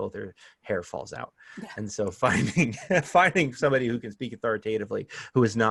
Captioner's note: laughter